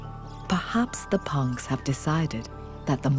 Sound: birds chirping

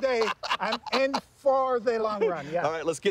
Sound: laughing

